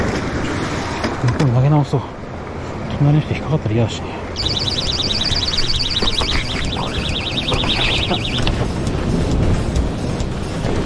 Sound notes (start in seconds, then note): 4.3 the part-time alarm suddenly starts going off again